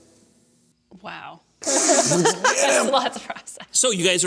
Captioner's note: laughs